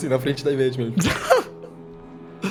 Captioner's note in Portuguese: risadas